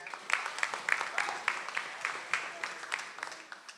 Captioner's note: audience applauds